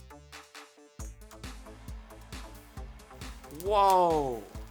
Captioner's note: machine whirring and electricity crackling